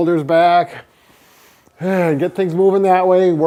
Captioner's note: deep inhale